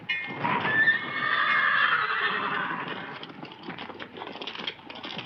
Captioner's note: horse neighs